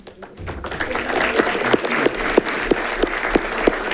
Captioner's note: audience clapping